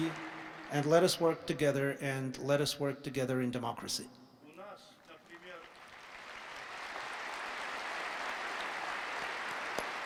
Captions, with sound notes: and let us work together and let us work togther in democracy. [Applause.]